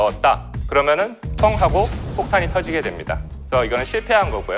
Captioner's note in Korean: 폭탄 폭발